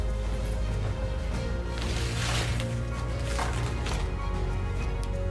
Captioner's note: sliding